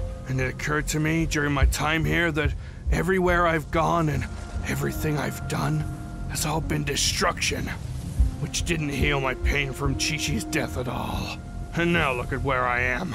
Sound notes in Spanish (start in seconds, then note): none